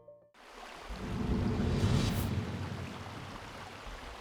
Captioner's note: water trickling